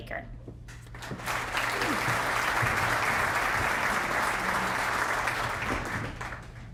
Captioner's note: applause